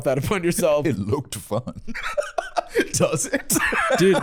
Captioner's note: laughing